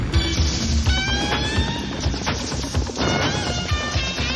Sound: exciting synth music; explosion sounding; exciting synth music

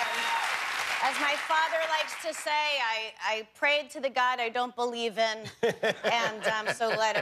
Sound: cheers and applause

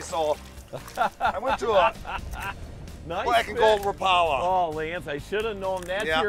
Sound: laughing

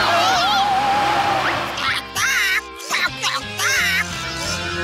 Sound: squawking

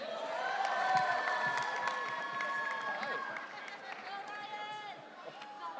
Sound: audience cheering

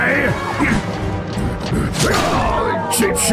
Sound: furious Breathing

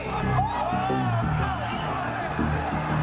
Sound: crowd; cheering

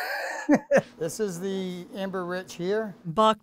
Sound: chuckles

